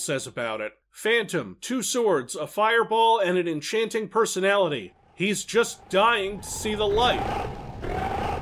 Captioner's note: reading and emphasizing the last part